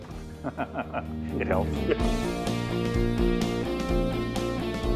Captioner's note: laughs